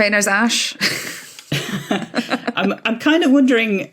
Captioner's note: giggle